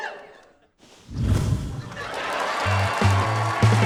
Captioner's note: whoosh!; applause